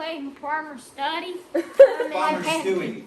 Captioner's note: students laughing